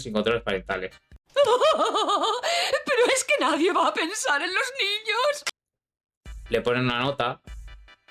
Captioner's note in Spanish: risas